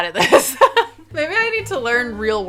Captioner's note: laughing